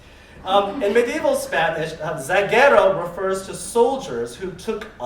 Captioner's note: spanish